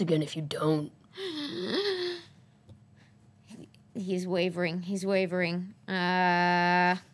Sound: gasps

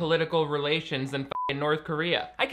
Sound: beep

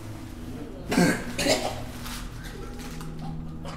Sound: coughs

